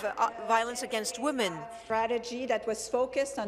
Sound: speaking in French

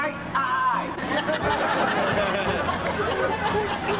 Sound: audience Laughs

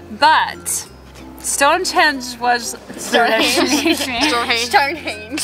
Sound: girls laughing

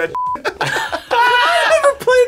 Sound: both laugh

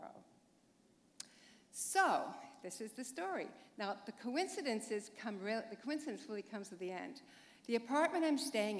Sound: chuckle

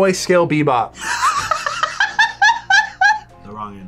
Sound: laughs

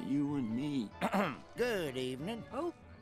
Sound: clearing throat

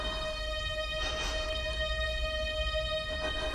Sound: dramatic music; sniffles

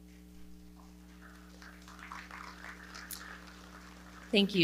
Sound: audience clapping

